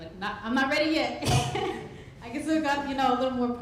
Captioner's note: laughs